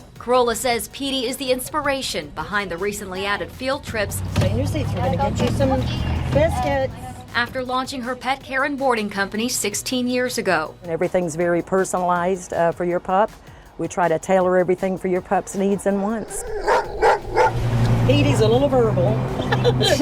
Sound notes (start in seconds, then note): 16.3 Katie barking; 19.4 laughs